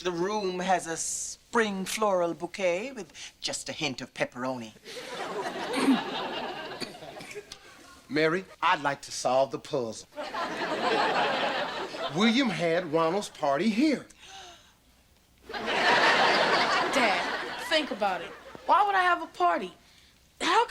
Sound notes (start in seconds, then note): 5.3 chokes; 10.2 audience laughter; 14.2 gasps; 15.5 audience laughter